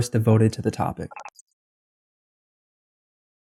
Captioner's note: beep